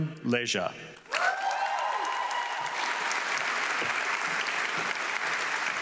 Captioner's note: audience clapping